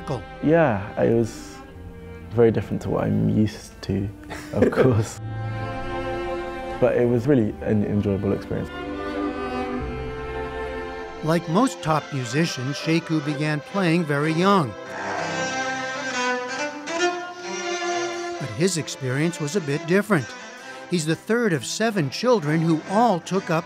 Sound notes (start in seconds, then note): 4.2 laughter